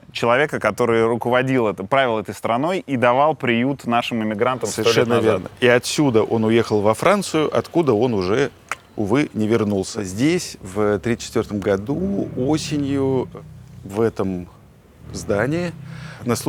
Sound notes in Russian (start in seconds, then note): 7.9 щёлкает языком